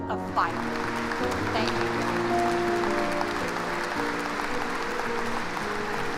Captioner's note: applauding